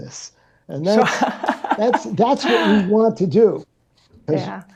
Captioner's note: laughs